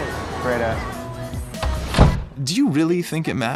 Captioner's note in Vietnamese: tiếng cửa đóng sầm lại